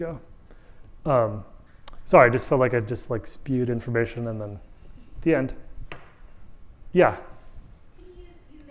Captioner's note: audience member speaking